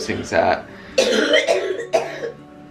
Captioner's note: coughing